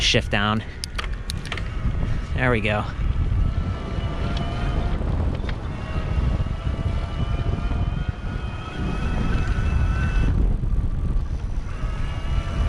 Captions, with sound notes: Gonna shift down. There we go. (engine running)